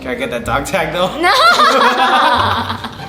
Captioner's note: laughing